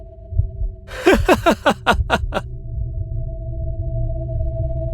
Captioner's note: laughs